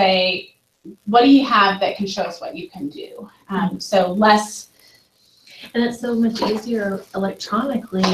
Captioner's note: audience talking